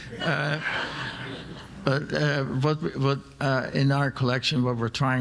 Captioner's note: audience laughing